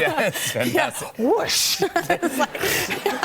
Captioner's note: laughter